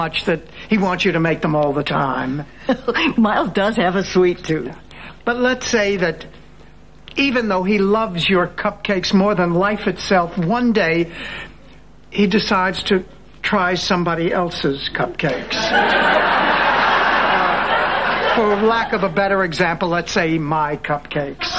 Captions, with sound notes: that he wants you to make them all the time. Miles does have a sweet tooth. But let's say that even though he loves your cupcakes more than life itself, one day he decides to try somebody else's cupcakes. (audience laughing) For lack of a better example, let's say my cupcakes.